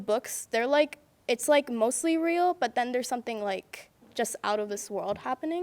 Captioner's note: none